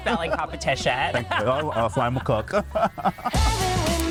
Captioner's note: laughs